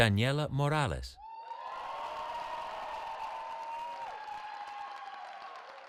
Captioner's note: cheering